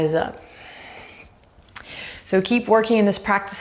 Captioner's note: deep breaths